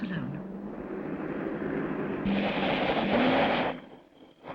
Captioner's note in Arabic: صوت المحرك